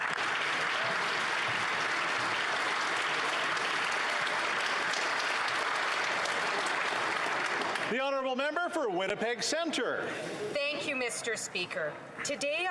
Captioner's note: applause